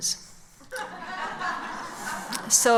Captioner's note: laughs